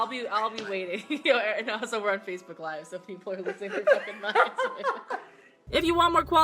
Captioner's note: laughing